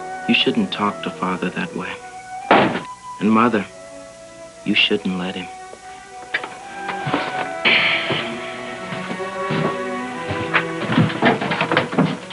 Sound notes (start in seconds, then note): 2.5 door slamming; 7.7 sighs; 8.6 footsteps; 12.1 door closing